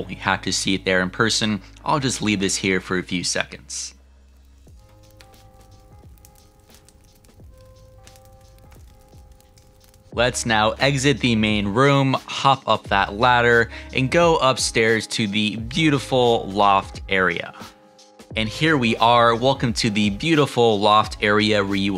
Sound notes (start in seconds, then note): 4.8 fire crackling; 4.8 gentle music continues